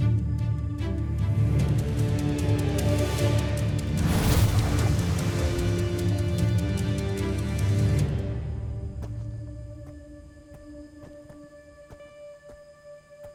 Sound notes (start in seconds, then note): 3.8 sparkling whoosh, energy swirling; 10.8 eerie music playing; 10.8 somber music playing